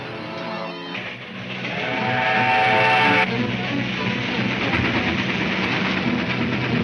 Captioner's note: dramatic music; train whistle trumpets